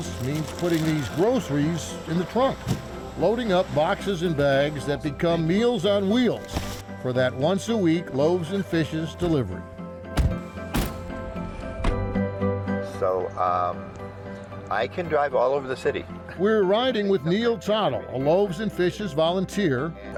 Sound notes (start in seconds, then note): 10.0 trunk closes; 12.7 soft music